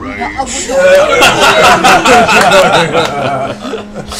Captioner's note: Grog voice; laughter